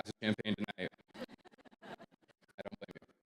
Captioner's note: audience chuckles